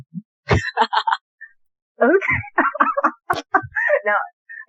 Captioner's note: laughter